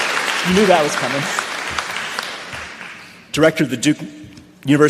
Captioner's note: applause